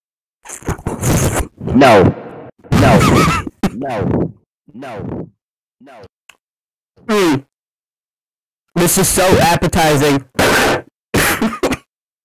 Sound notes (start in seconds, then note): 11.2 bruh experiences more lumbago and laughs